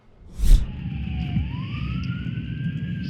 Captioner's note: sirens